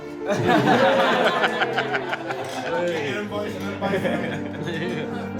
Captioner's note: cheering